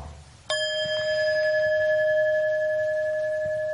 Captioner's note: bell chiming